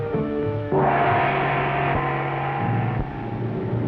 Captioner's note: gong bangs; suspenseful orchestral music